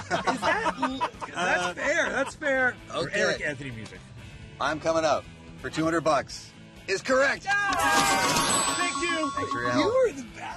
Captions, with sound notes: Oh, my god, someone's shaking their head at us. [Laughing] That's fair, that's fair. Okay. "I'm Coming Out", for 200 bucks... is correct! [Cheering] Thank you! Thanks for your help.